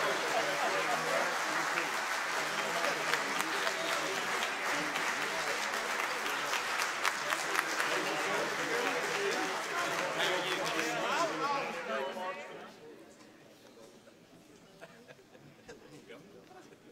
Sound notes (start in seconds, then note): 5.6 applause